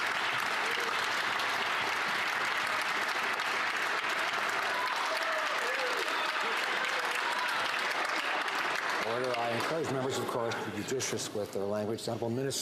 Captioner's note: some Applause